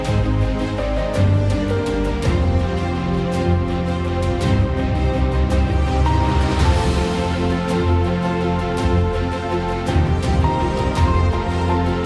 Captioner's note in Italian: Applauso